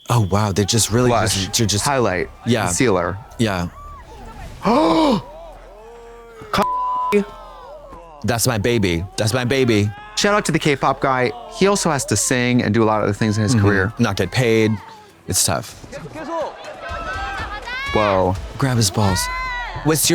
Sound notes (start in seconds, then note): 4.6 Trixie gasps; 6.6 beep